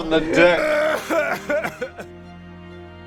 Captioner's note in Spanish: llora abiertamente